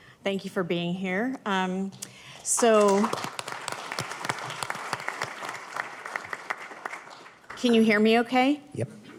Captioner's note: applause